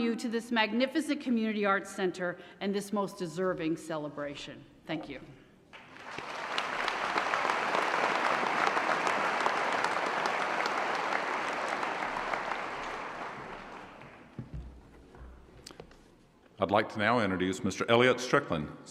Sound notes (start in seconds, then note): 5.7 applause